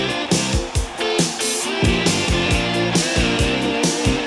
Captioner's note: upbeat music; audience cheering